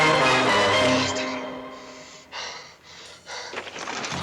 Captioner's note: breathing heavily